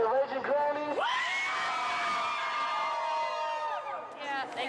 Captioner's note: all cheering